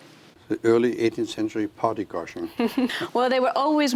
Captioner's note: laughs